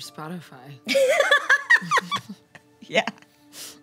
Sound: Annabelle laughs

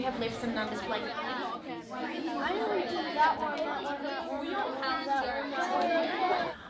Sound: children chatter

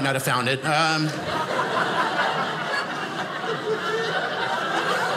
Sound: audience laughing

